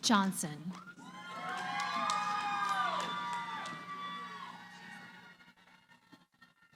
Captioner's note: cheering